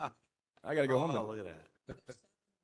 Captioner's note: laughter